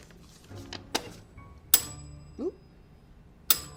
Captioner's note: bell rings